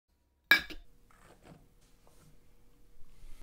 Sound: bowl clinks

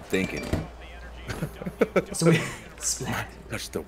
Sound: laugh

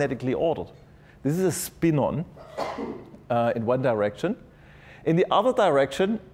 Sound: cough

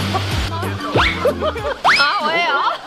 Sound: hahaha

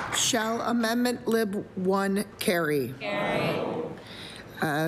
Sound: applause

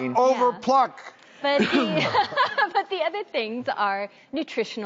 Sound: laughing

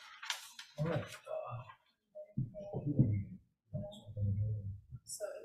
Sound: indistinct conversation

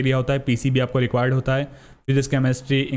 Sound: exhales

